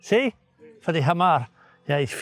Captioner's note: speaking in foreign language